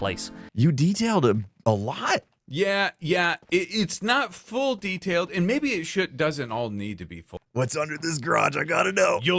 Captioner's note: none